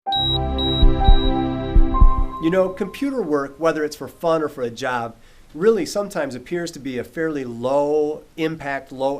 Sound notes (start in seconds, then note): 0.1 machine beeps